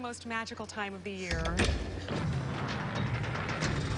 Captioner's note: clunking